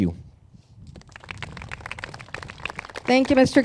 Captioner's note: crowd claps